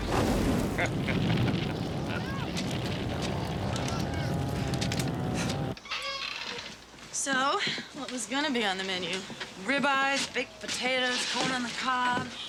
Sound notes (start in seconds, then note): 0.7 Timmerman laughs sarcastically